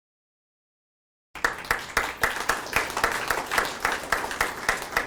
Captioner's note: attendees clapping